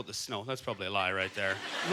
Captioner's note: audience laughter